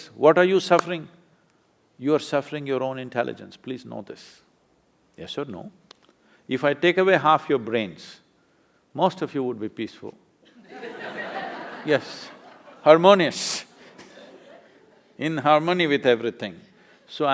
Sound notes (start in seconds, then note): 10.4 laughter; 14.1 laughs